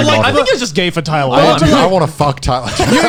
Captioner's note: laughs; laughs